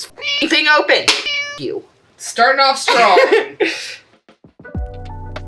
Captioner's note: meow